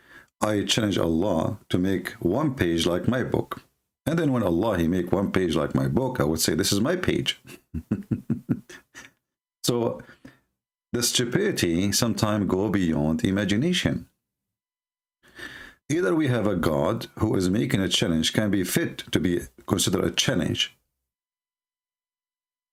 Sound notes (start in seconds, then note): 7.4 Ketawa